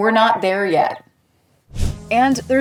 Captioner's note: whoosh